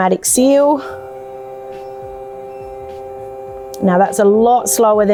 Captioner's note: sealer buzzing